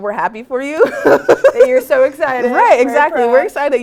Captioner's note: laugh